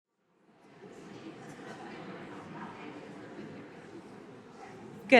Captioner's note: audience murmuring